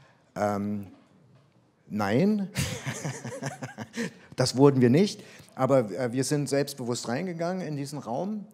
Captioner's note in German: lacht